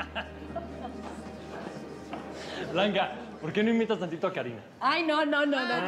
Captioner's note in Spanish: Risas